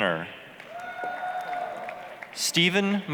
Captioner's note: applause, cheering